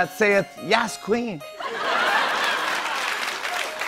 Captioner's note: laughter and applause